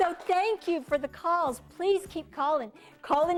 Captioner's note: cheers and applause